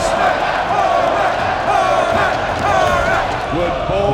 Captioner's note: crowd cheers